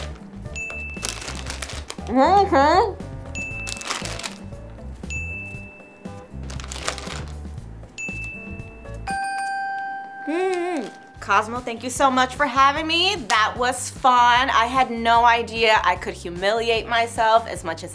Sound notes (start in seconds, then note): 0.0 bell dings; 0.0 package crinkles; 0.3 bell dings; 0.8 package crinkles; 2.8 bell dings; 3.5 package crinkles; 5.1 bell dings; 6.3 package crinkles; 7.9 bell dings